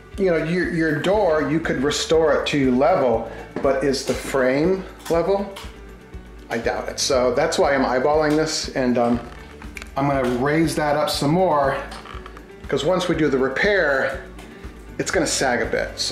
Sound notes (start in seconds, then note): none